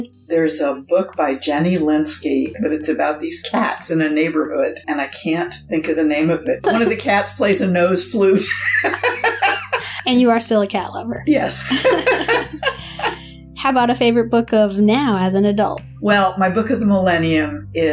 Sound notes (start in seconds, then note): 8.4 laughter; 11.6 laughter